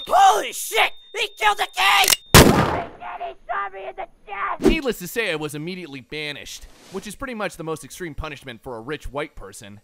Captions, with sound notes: HOLY SHIT, HE KILLED THE KING! *Cocks gun* *BANG* HOLY SHIT, HE SHOT ME IN THE CHEST! Needless to say I was immediately banished, which is pretty much the most extreme punishment for a rich white person.